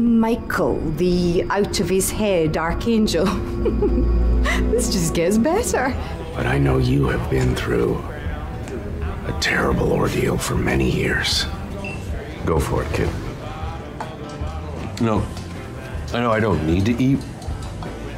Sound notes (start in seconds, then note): 3.2 chuckles; 6.6 voice-over; 9.5 voice-over